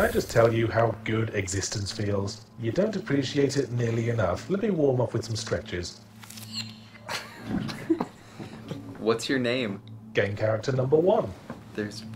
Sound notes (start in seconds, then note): 0.2 voiceover; 7.1 laughing; 10.4 voiceover